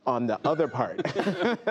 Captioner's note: laughter